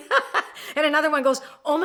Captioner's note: laughs